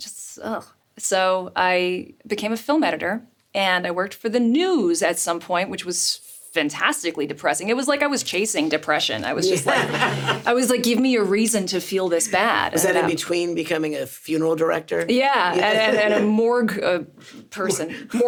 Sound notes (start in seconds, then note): 9.2 laughs; 15.4 Richard laughs